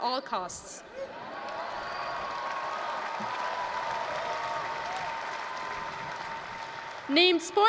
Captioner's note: applause, cheering